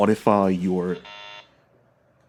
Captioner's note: buzzer sound effect